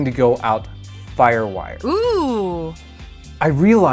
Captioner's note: female voice: Ohhhh